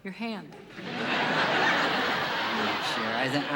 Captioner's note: laughter